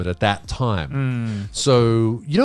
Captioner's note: all laughing